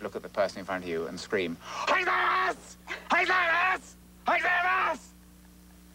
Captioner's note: shouting Japanese